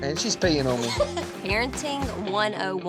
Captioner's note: laughter